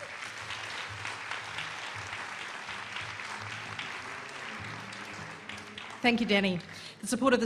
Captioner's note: applause